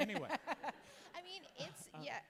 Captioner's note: laughs